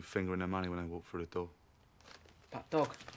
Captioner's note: none